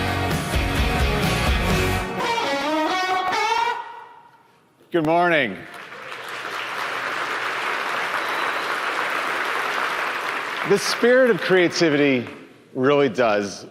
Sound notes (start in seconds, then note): 5.4 applause